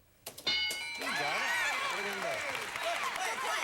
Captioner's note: audience applauding